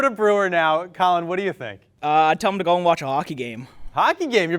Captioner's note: none